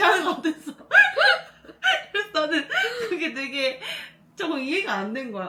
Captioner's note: laughter